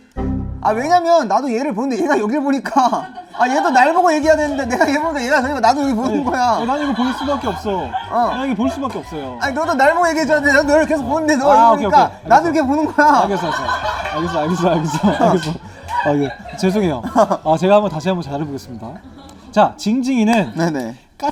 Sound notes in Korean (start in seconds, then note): 3.3 속사포